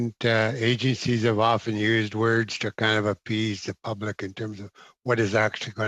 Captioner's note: laughing